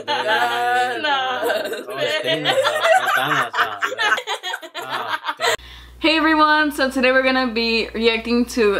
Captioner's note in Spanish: La risa